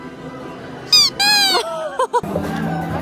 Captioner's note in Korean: 애써 웃음